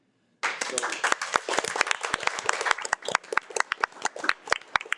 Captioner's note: audience clapping